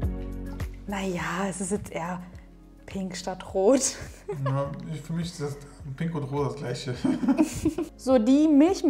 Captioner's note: laughing